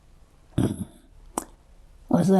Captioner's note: clears throat